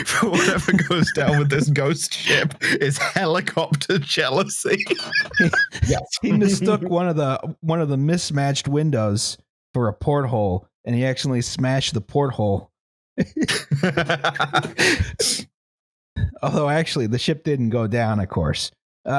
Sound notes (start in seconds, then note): 2.2 laughter; 4.2 laughter; 13.2 laughter